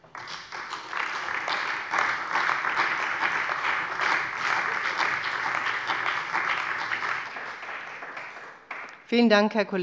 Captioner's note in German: Beifall bei der CDU und dem BÜNDNIS 90/DIE GRÜNEN